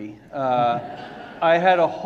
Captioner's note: audience laughing